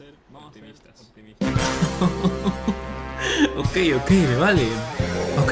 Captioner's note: laughter of joy